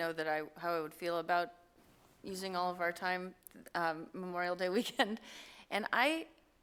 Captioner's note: chuckle